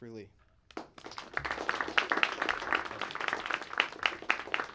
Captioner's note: audience applauding